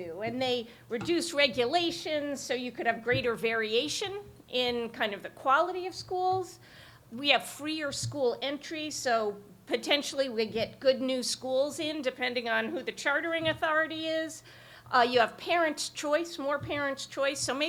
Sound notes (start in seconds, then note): none